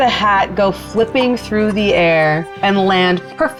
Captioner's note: laughing; imitating air whooshing